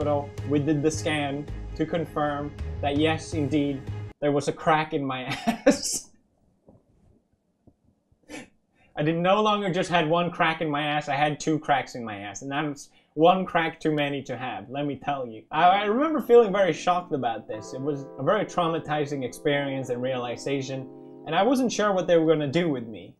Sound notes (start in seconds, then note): 5.3 quiet laughter